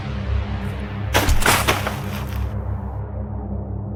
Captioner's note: thud and crunch on the ground